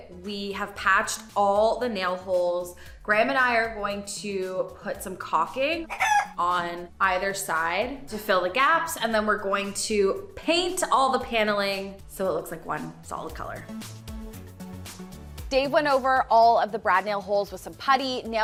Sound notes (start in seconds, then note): 5.8 chicken squawks; 14.0 bright music